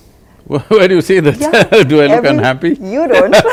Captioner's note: laughs; both laugh